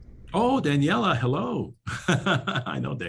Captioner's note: laughs